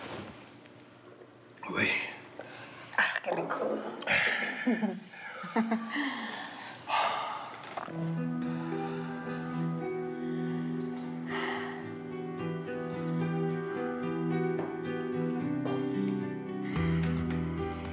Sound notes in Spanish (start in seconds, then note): 4.1 Ríe; 9.2 Marco exhala